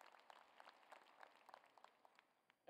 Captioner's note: applause